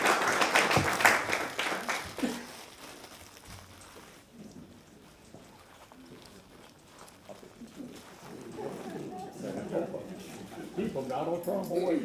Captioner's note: applause